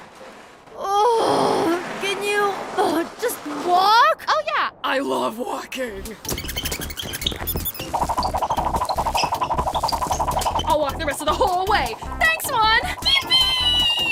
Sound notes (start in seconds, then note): none